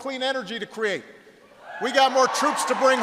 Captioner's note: applause